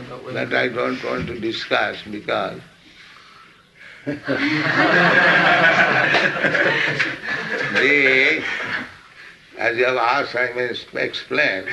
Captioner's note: laughs; laughter